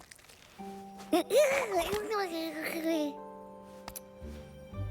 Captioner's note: excited burbling